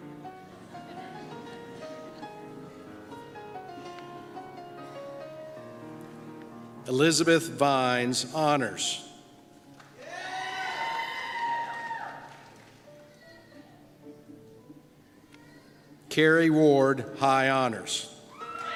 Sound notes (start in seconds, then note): 11.3 applause